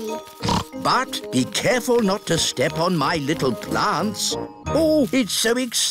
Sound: snorts

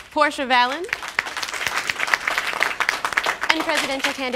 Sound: claps

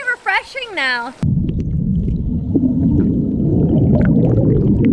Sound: gurgling

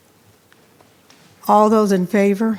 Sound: speaking faintly

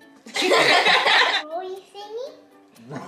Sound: family laughing

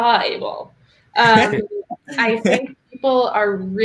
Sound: laughing

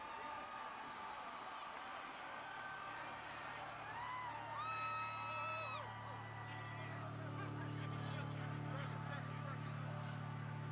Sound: applause

